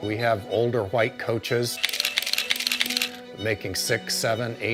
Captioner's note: camera cranks